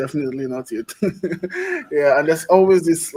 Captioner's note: laughs